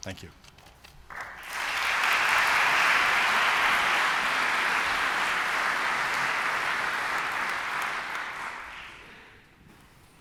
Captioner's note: applause